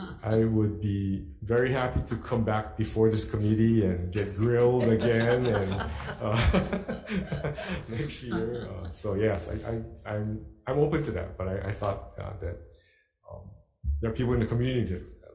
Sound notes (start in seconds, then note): 4.2 chuckling